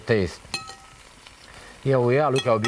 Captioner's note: pan sizzling; bowl chinking